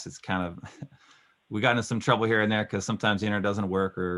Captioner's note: laughing